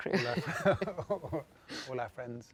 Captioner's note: both laugh